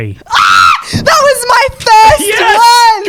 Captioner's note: screams